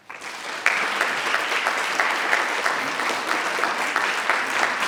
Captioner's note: audience applauding